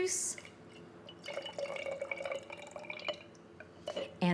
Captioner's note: liquid dribbling